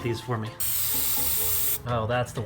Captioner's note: spraying